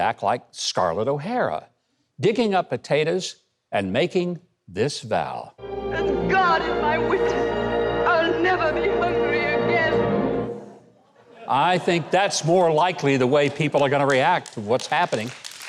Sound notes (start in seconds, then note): 5.6 instrumental music playing in the background; 6.5 Scarlet O'Hara's voice; 15.4 audience claps